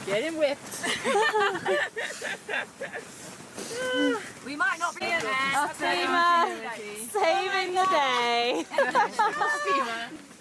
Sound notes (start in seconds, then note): 0.8 all laughing; 3.4 group conversing indistinctly; 8.5 laughs